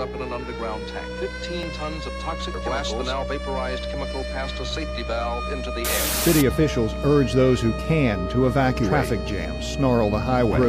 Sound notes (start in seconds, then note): 5.8 vapor hissing